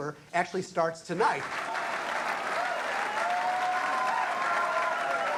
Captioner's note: crowd cheering